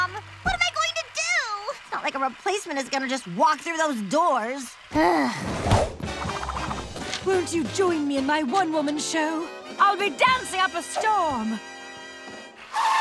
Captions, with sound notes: What am I going to do? It's not like a replacement is gonna just walk through those doors. [groaning] Won't you join me in my one woman show? I'll be dancing up a storm.